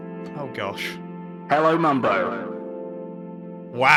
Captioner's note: intercom voice